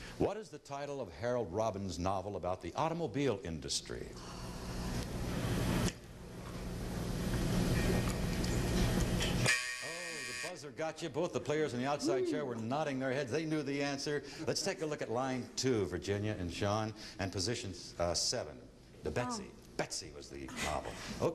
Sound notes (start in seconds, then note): 9.4 buzzer